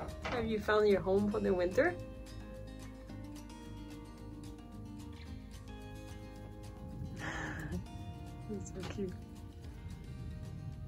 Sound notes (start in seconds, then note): none